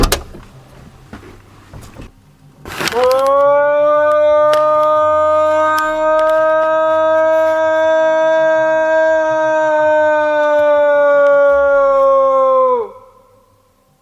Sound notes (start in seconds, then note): 0.0 door opening; 3.3 yelling